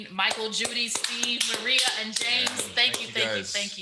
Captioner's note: all clapping